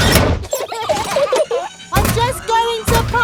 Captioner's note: children giggling